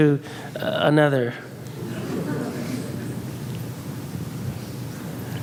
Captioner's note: audience laughs